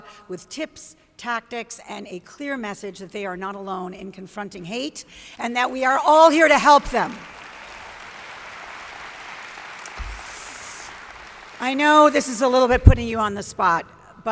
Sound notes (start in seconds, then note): 7.0 audience applauds